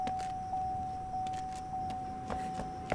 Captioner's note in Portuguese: zumbido de insetos